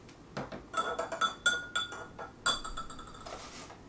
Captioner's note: spoon clanging